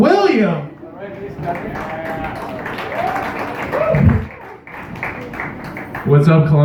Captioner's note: light Cheering, Continuous Medium Applause, Microphone Bumped